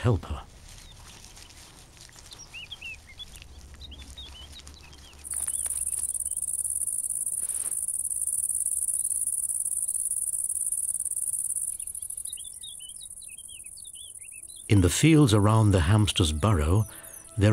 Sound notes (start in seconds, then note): 2.8 birds twitter; 6.1 cricket chirps